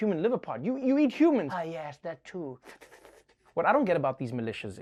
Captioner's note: sucking sounds